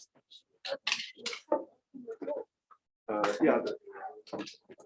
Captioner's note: background chatter